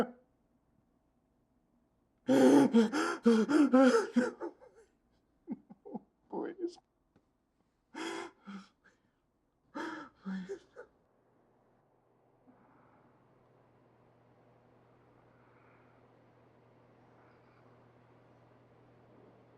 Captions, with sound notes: (Logan panting and sobbing) No, please. Please, no.